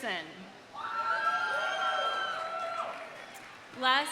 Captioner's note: audience cheering; audience applauding